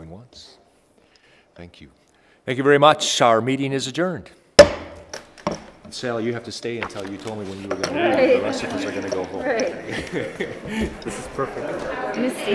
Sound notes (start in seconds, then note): 4.6 gavel bangs